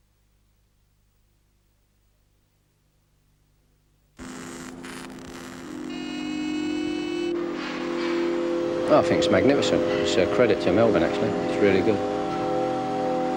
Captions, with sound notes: (sparks buzzing) (machine engines running) I think it's magnificent. It's a credit to Melbourne, actually. It's really good.